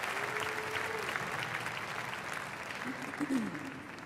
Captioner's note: applause